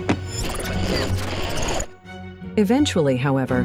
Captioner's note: static whirring